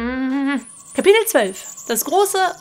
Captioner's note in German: grummelt